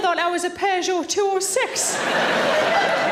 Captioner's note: audience laughing